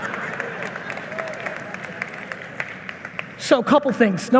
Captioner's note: audience members applauding